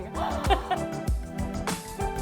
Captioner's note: laughing; upbeat music continues